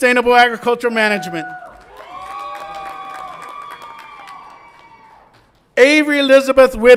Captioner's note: audience applauds and cheers